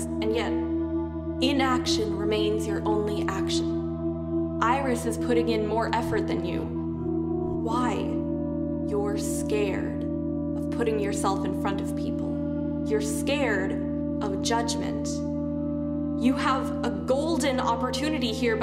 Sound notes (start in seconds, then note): none